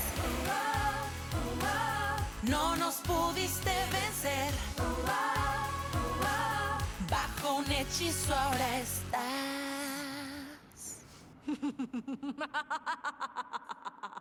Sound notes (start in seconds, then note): 11.4 evil laughter